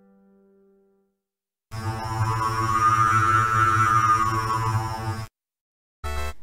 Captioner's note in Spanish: Sonido de vórtice